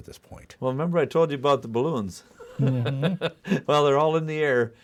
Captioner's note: laughing